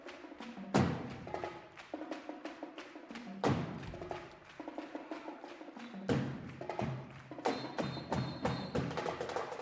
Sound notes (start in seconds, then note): 1.7 rhythmic clapping; 7.1 drumming